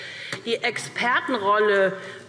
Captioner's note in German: none